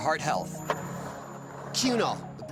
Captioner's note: skateboard wheels roaring